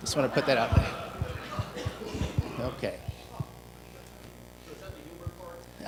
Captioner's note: laughter